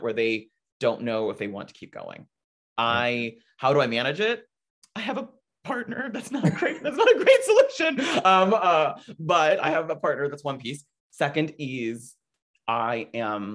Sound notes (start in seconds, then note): 7.7 laughing